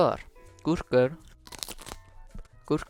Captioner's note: chomp